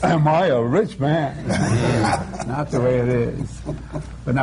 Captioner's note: laughter